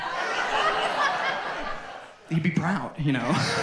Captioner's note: audience laughs